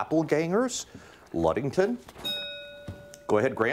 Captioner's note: bell rings